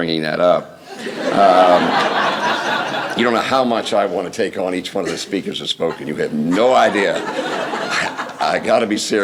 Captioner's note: laughter